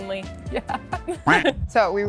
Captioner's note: laughs; duck quacking